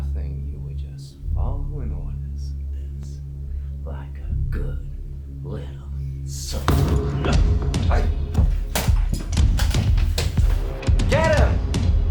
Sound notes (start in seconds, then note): 6.2 men rumble